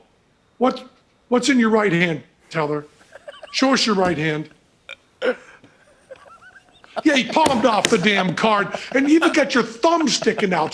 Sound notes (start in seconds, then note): 5.2 laughs